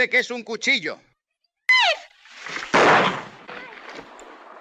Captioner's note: gunshot